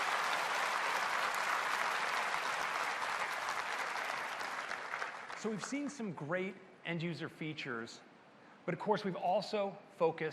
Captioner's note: applause